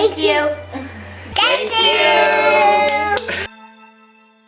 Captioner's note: with tiny hand claps